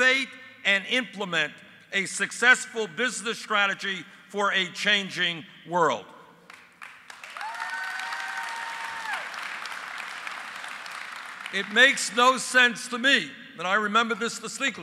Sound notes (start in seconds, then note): 8.6 applause